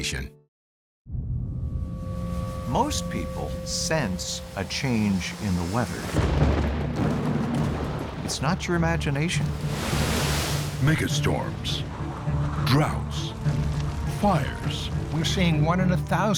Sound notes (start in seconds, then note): 6.7 thunder rumbles